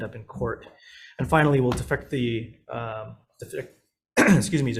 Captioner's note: coughs